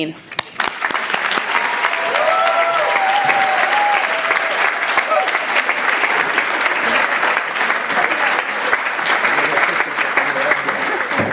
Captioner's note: applause and cheering